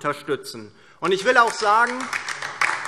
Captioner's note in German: Beifall DIE LINKE